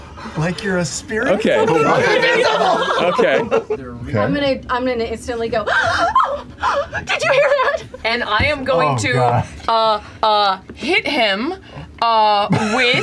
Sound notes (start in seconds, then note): 6.8 gasps